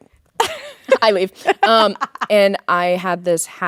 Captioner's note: Courtney laughing